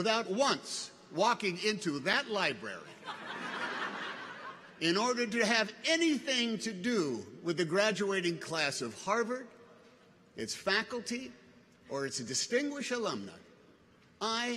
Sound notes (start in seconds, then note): 2.9 audience laughs